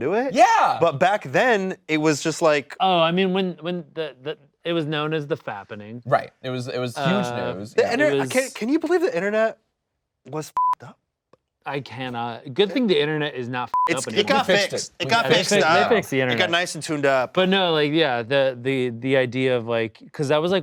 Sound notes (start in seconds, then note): 10.6 beep; 13.7 beep